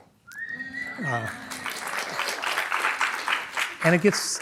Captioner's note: applause